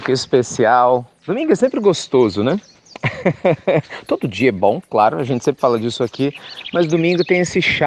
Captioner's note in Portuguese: Risos